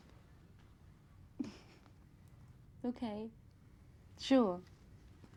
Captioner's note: chuckles